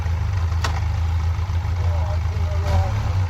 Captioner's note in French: Ronronnement du moteur; Claquement de la boîte de vitesse